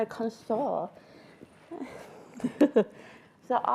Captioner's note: laughing